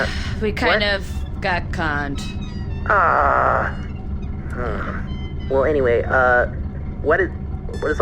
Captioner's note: sighs